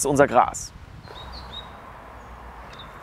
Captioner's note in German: Vogelzwitschern